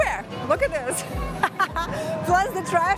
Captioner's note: laughs